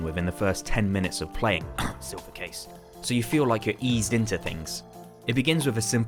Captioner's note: cough